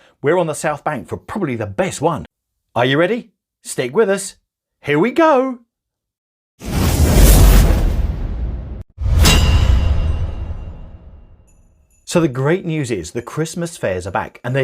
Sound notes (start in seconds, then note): 6.9 dramatic music; 6.9 logo clanging